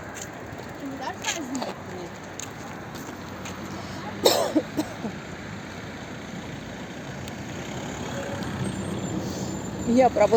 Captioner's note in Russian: кашель